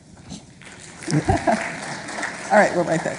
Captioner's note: applauding